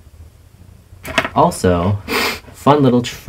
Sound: sniff

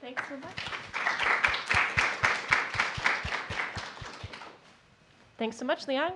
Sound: applause

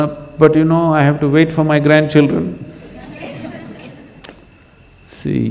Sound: laughter

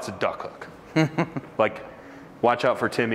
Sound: cohost laughs

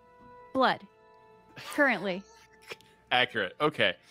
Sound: laughs

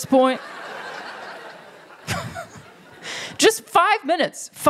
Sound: laughter

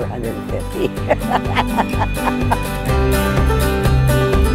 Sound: laughing

